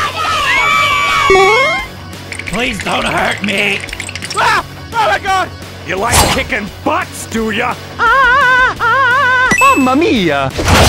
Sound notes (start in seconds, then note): 2.2 shivering; 9.5 coin sound